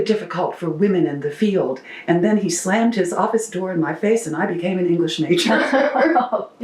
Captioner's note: laughter